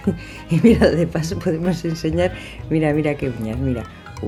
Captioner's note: giggle